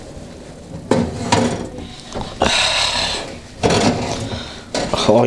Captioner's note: clunking and clattering